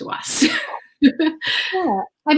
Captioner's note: laughs